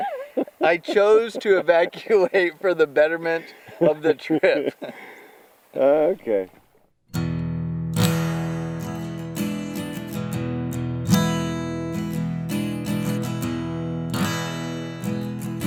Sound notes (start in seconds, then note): 3.9 laughs; 7.2 guitar music